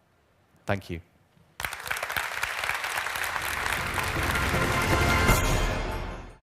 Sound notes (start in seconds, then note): 1.5 Applause